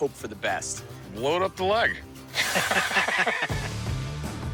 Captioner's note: laughter